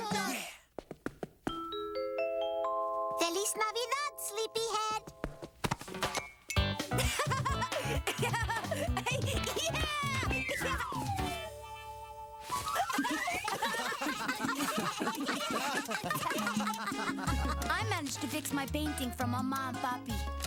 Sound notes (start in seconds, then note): 12.5 laughter